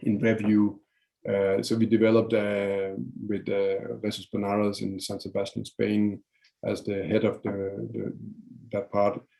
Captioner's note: foreign language